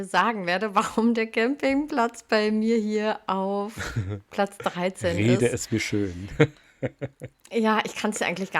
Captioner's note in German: gelächter